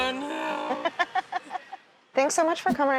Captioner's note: laughs